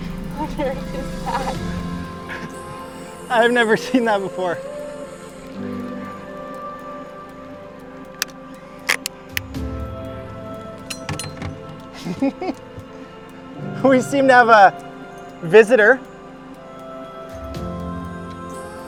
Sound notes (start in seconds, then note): 7.0 instrumental music; 12.0 laughs